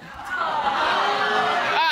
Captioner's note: audience boos